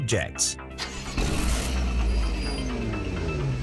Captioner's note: car engine starts